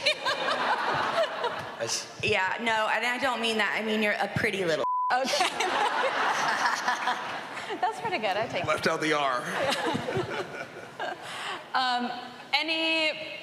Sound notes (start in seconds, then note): 0.0 laughing; 5.2 all laughing